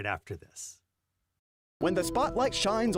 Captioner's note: voiceover